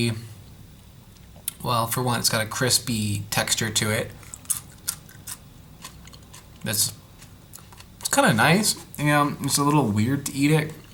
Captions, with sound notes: Well for one. It's got a crispy texture to it *crunch crunch crunch* this It's kind of nice. Yeah, just a little weird to eat it